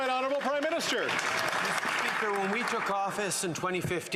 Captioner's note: some Applause